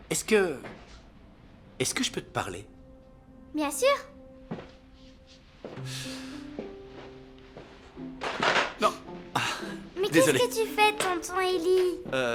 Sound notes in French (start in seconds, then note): 8.3 cliquetis